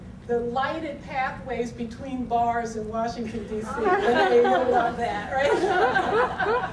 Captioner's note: audience laughter